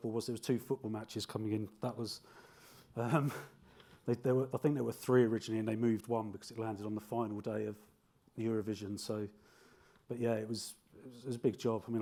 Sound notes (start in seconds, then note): 3.0 giggles